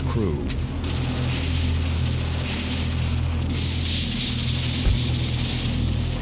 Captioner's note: machine guns firing and bombs dropping